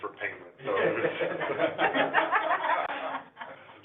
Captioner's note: all laughing